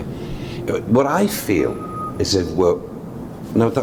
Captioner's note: whistling sound